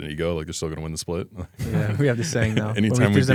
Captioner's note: laughs